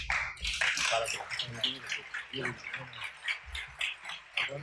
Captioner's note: applause